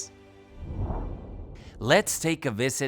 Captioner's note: graphic whooshing